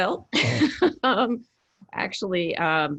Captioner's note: laughs